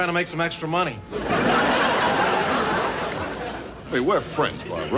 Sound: audience laughing

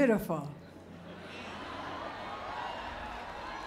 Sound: laughter and cheering

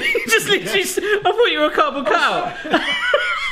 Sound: both laughing

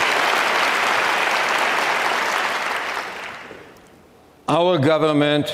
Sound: audience clapping continues

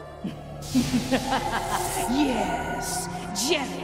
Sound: evil laughter

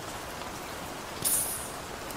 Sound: sizzling from rain

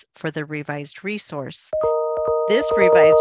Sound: bell rings

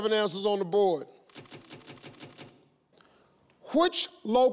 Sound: screen clicks seven times

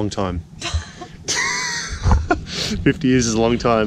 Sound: laughs

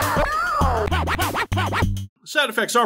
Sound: disc scratching

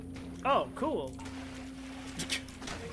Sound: sarcastically

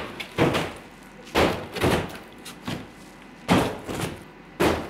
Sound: banging

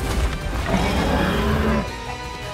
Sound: snarls

